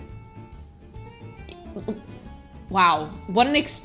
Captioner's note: stammering